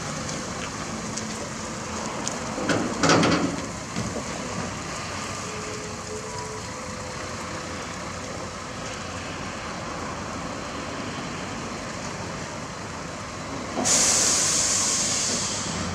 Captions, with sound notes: [ENGINE IDLE] Heavy Trucks Arrive: Scania P380 Lowbed & UD Self Loader